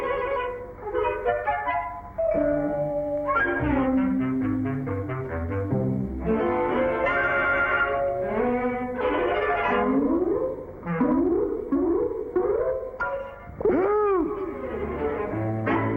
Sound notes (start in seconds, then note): 13.1 pop